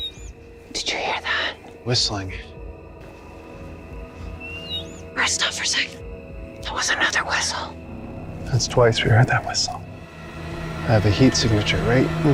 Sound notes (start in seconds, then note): 0.4 whispering; 4.4 squeaky whistle